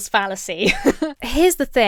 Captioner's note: laughs